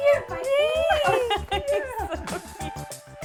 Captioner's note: laughing